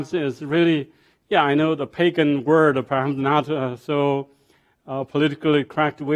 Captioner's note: speaking foreign language